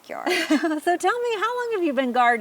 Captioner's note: laughs